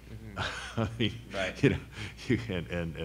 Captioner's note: laughs